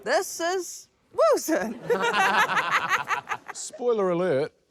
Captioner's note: laughter; chuckles